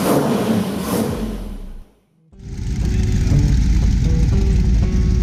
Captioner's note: tires screech; engine revving; mysterious music